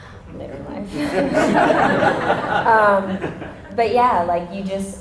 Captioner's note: audience laughter